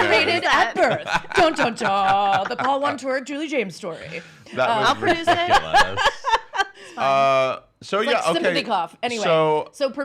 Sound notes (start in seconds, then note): 4.8 laughing